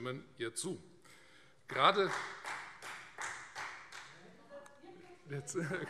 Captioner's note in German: Beifall Freie Demokraten